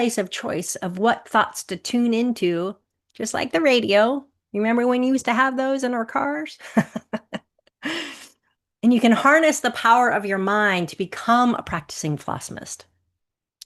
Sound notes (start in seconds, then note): 6.6 chuckles